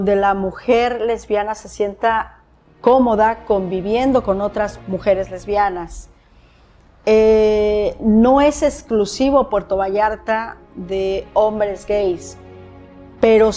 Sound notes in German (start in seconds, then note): 0.1 spricht Spanisch; 7.5 Spanisch sprechend